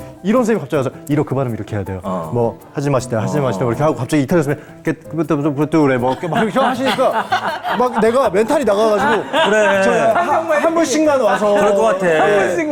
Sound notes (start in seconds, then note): 3.9 italian gibberish